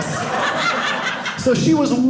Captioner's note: audience laughing